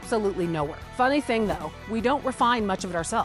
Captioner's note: text whooshing